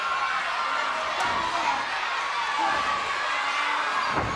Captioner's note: fans shouting